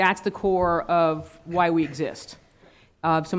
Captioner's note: laughing